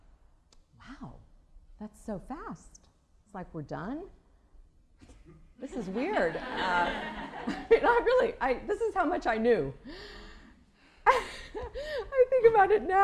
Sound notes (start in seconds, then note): 5.7 laughter